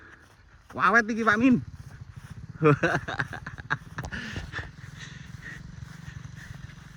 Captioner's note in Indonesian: tertawa